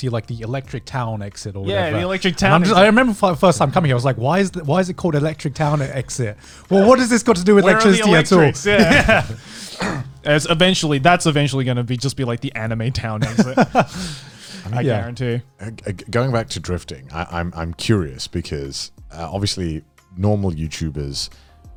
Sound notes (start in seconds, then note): 10.1 all laughing